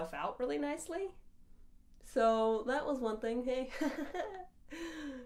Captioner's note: giggles